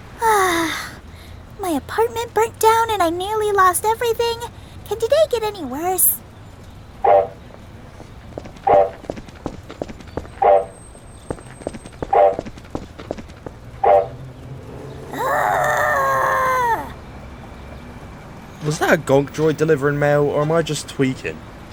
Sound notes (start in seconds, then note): 0.2 sighs; 9.4 Gonk noises